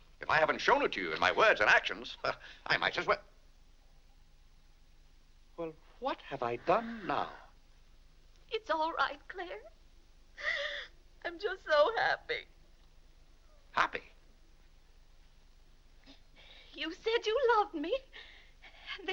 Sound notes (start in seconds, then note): 10.4 sobs